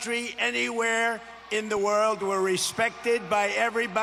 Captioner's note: cheers